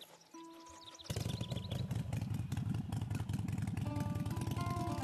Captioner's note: motorcycle starts